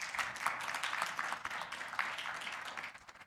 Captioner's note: applause